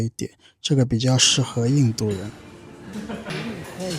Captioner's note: evil laugh